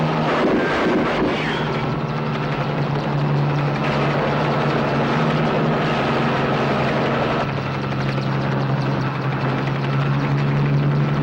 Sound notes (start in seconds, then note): 0.0 gunshot pops; 0.0 helicopter roaring; 0.8 gunshots popping; 3.9 helicopter roaring; 3.9 truck engine whirring